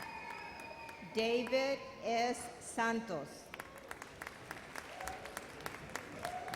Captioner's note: audience applauds